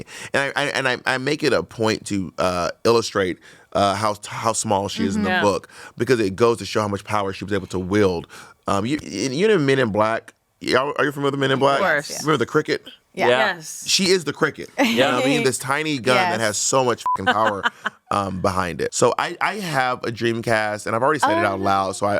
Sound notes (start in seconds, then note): 17.0 beep